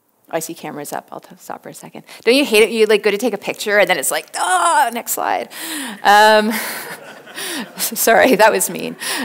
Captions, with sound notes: I see cameras up, I'll just stop for a second. Don't you hate it, you go to take a picture and then it's like, ah, the next slide! (audience laughs) I'm sorry, that was mean.